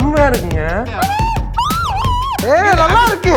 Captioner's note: screams